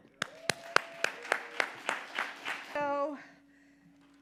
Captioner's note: audience applauding